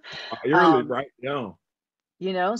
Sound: chuckles

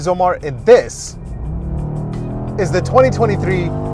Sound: car engine revving

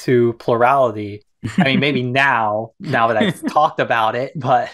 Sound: laughs

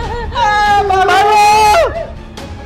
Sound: laughing; shouting

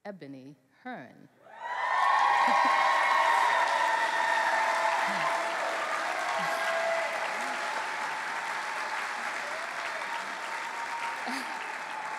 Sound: cheering

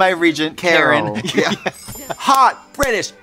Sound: twinkling

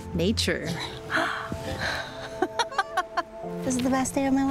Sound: gasps and laughs

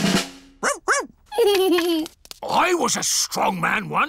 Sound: drumroll; giggles

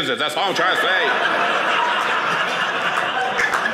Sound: audience laughing

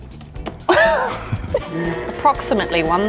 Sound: laughing

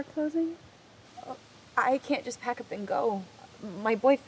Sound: stammers

